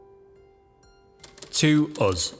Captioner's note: typewriter keys clacking